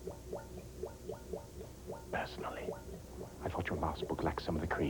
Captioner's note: whispering